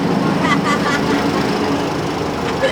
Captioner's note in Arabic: ضحك